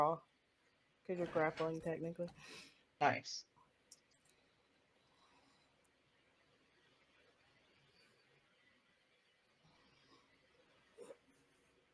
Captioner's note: Roll20 noises